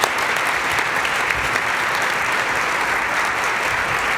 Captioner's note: applause